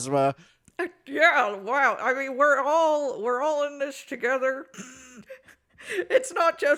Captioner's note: laughs